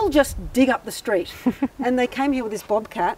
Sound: laughs

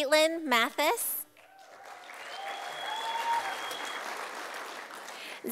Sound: sound of applause from audience

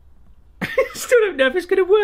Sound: laughing

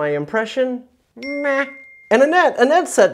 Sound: bell ringing

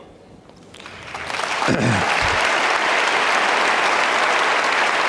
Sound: audience clapping

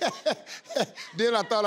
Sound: laughing

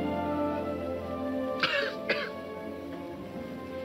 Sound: coughs

